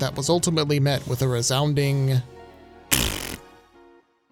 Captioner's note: blows raspberry